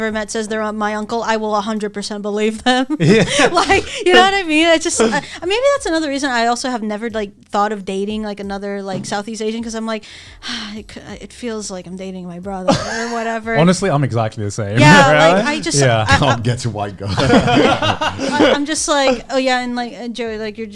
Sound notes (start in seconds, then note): 17.2 all laughing